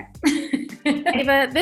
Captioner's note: laughing